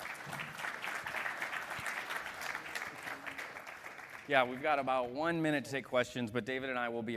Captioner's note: applause